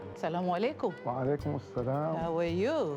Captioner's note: speaking in Swahili